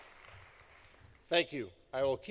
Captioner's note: applause